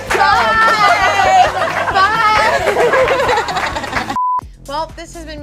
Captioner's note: audience cheers; laughs; beep